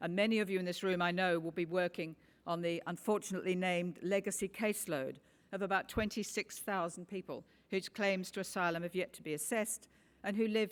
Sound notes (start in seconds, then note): none